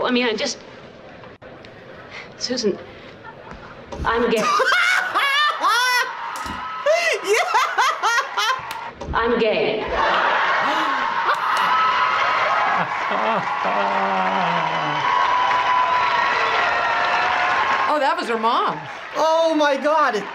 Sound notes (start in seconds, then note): 6.8 laughs; 10.3 chuckles; 10.6 gasps and claps